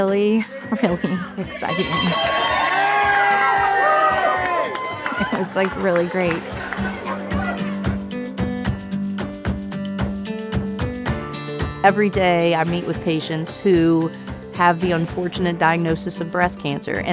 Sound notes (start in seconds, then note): 1.6 bell dinging; 1.7 group cheering; 5.1 group chattering; 6.6 cheerful music